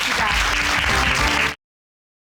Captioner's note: audience applauding